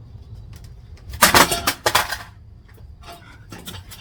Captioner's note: Boardy loudly falls over